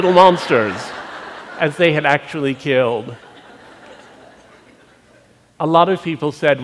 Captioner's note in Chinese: 笑聲